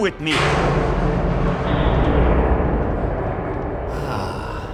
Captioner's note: metal banging